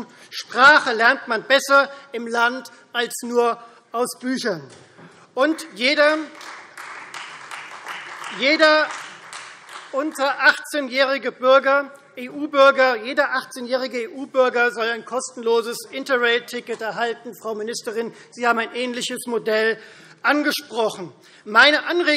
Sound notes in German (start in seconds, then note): 5.5 Beifall Freie Demokraten